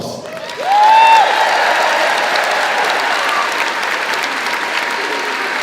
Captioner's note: crowd cheering and clapping